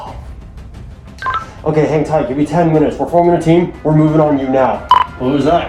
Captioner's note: radio beeps